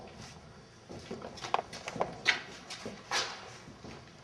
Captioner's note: footsteps